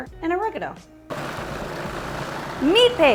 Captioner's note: blender whirs